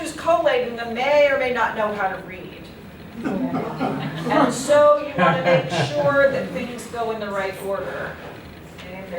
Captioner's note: laughter